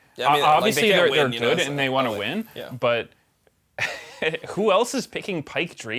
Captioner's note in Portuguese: risos